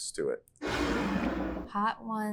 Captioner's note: bottle scrapes